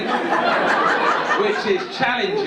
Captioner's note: audience laughing